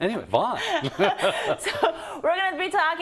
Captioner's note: laugh